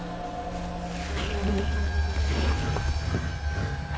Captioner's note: buzzing insects